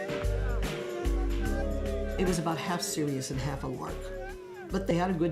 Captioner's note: chanting